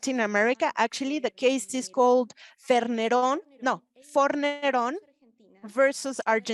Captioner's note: speaking Spanish